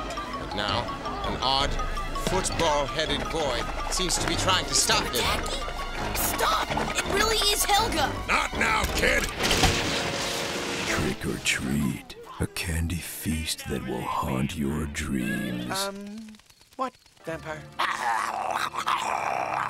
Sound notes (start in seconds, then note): 17.8 snarling